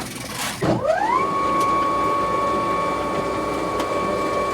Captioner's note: machine whirring loudly